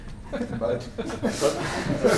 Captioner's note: laughter